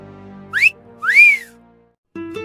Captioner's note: wolf whistle